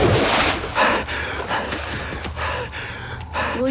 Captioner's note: heavy Breathing